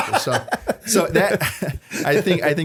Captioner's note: laughter